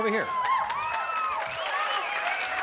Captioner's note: cheering